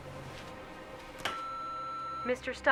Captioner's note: machine beeping